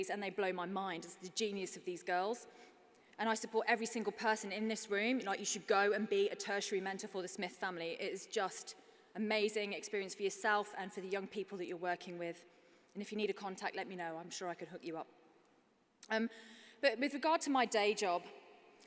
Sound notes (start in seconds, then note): none